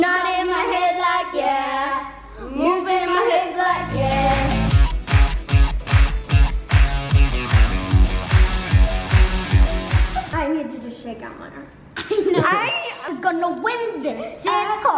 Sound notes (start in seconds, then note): 3.7 upbeat music; 12.2 laughing